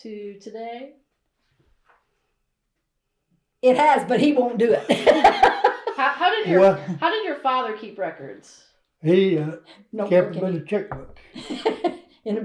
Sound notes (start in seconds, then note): 7.1 laughs